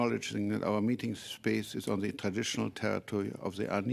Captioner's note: speaking French